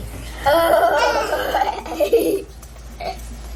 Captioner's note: laughing